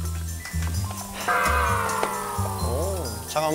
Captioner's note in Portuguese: suspiros